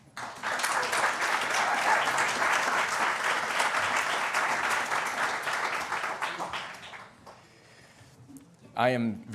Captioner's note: applause